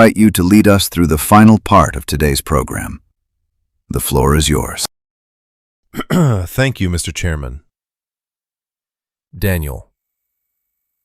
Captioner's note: clears throat